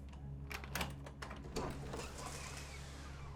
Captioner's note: lock clatters; door creaks open